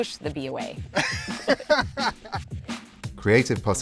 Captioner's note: both laughing